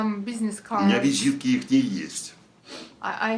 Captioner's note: foreign language